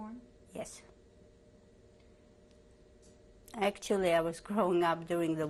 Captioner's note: pauses for 3 seconds